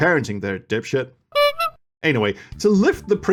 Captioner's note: clown honk